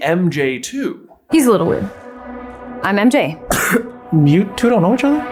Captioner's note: cough